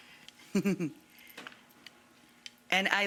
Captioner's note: Rachael giggles